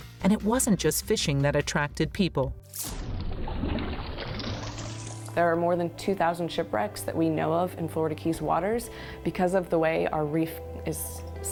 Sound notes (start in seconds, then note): 5.3 water sloshing